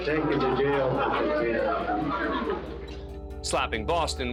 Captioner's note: indistinct chatter